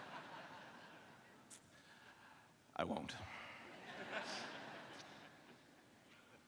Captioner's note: laughter